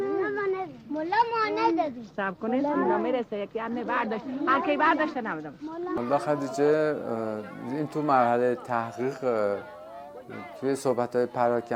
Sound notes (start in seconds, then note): 1.1 speaking foreign language